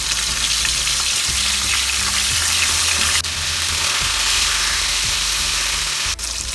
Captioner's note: sizzling sound of fish frying